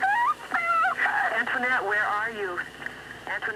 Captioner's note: sceaming; on phone